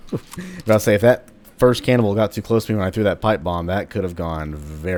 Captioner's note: chuckles